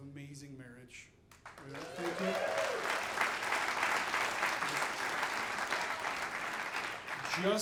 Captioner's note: audience applauding